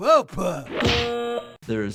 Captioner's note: buzzer blares